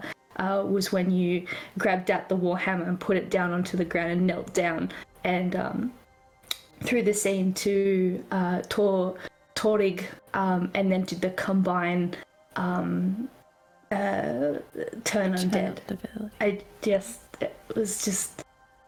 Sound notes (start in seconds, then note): 15.0 whispered